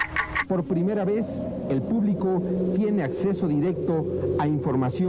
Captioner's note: in vreemde taal